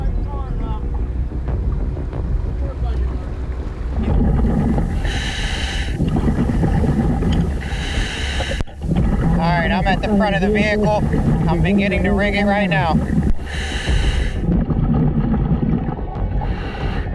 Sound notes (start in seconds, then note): 0.0 dramatic music; 4.0 diver inhaling; 14.1 diver inhaling